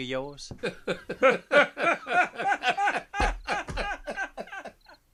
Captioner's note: laughter